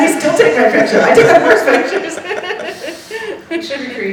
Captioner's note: laughing